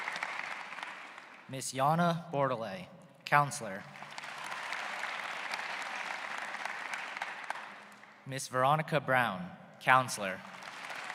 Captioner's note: applause